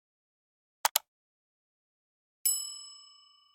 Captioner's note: button clicking; bell ringing